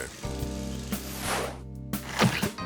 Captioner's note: transition whooshes; plunger squelches